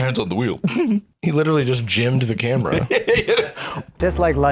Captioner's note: laugh